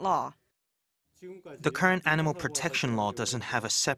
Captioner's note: Korean